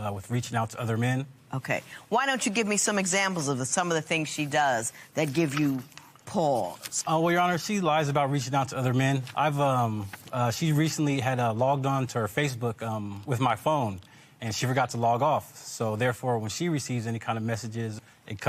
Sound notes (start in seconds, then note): none